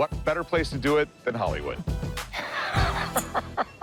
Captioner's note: laughs